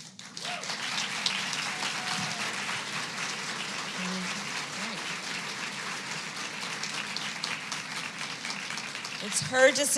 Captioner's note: applause